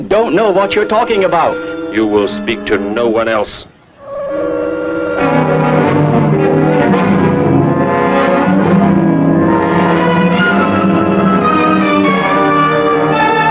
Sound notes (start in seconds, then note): 6.7 gun humming; 9.2 dramatic music